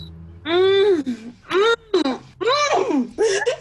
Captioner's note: maybe gasps ecstatically; both laugh